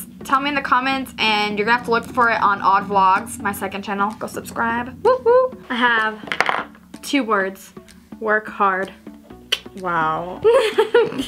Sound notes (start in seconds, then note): 9.5 clicks tongue